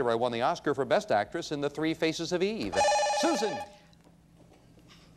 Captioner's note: bell rings